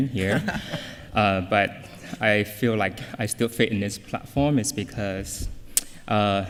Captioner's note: laughter